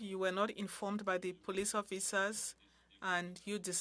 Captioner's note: speaking French